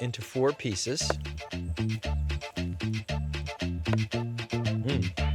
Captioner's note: chopping slowly